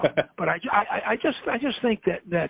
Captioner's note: laughs